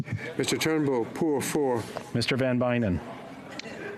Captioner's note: speaking French